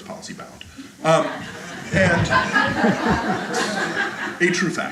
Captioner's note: audience laughter